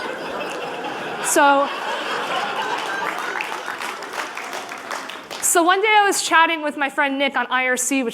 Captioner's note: laughter; applause